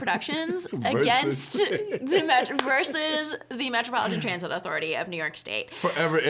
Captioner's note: laughing